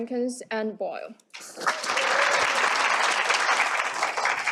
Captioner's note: applause